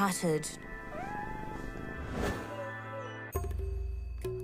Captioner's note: cat mewls